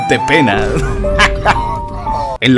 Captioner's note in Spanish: risa malévola